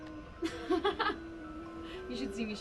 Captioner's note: laughs